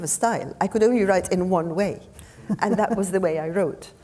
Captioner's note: chuckling